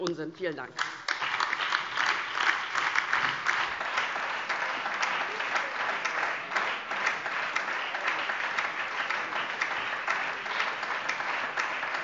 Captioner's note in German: Beifall DIE LINKE, BÜNDNIS 90/DIE GRÜNEN und SPD